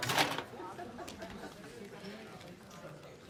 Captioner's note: audience laughing